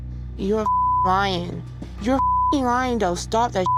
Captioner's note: beep